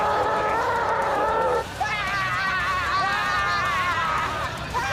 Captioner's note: roars